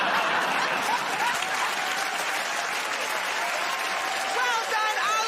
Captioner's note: laughter